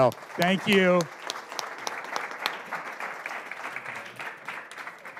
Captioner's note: applause